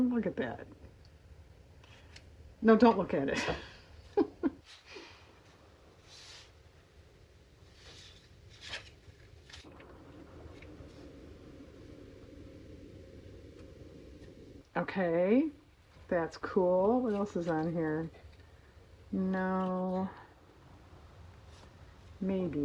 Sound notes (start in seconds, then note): 9.8 laughs